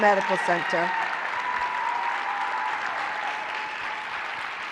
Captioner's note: cheering, applause